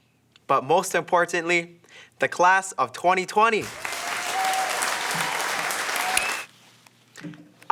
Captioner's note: cheering